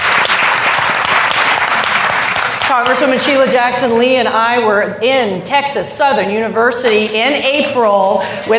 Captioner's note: applause